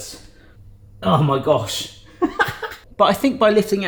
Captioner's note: laughs